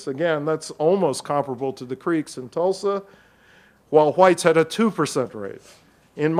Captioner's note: none